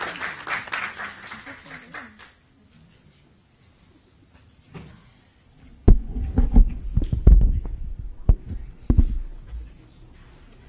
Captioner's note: applause